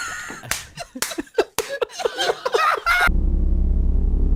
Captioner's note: all three laugh